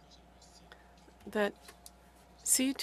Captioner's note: speaking French